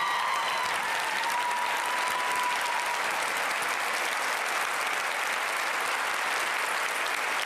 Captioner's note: cheers and applause